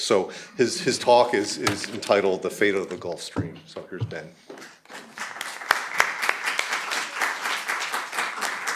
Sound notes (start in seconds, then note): 4.9 applause